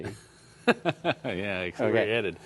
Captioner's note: laughter